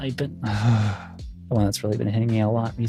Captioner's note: sighs